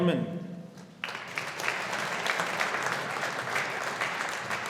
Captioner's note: audience applauding